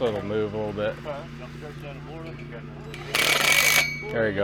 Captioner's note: indistinct background chatter; drill buzzes